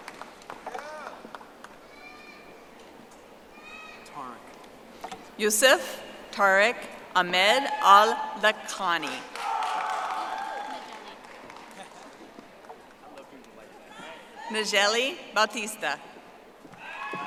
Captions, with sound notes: (audience applauding) Yusef Tarek Ahmed Al-Baktani. (audience applauding) Migelli Batista.